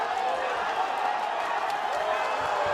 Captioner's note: cheering